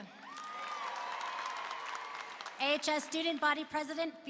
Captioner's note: applause and cheering